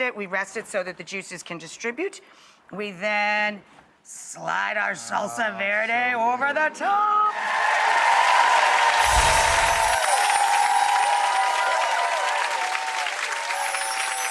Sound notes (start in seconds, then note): 7.3 audience applause